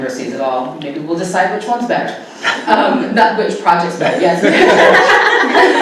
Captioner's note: laughter